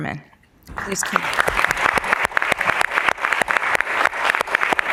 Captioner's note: applause